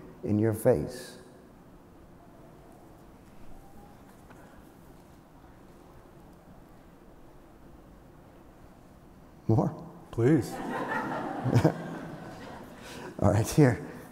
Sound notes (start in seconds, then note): 2.1 long pause; 5.5 laughter